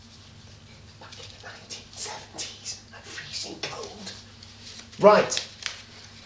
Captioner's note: whispering